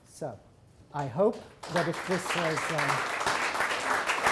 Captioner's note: applause